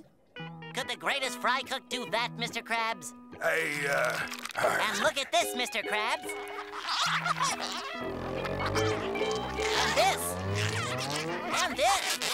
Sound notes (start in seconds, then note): 7.2 squeaking